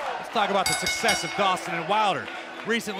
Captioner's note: bell